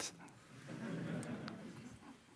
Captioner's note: audience laughing